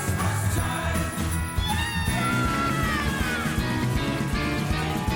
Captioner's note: cheering